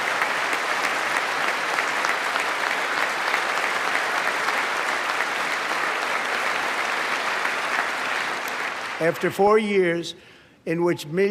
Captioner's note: applause